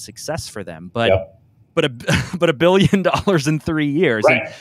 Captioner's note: laughs